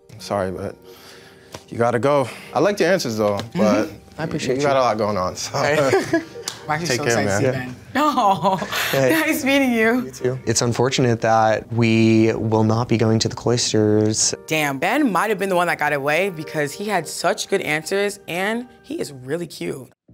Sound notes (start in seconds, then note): 5.5 men laugh; 6.4 men clap; 8.0 chuckles; 19.9 upbeat music